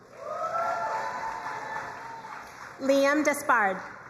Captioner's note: crowd cheering and applauding